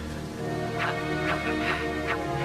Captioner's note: wooshing